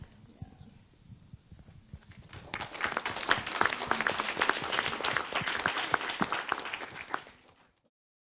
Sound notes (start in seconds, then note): 2.2 applause